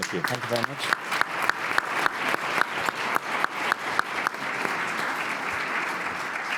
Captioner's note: audience applauding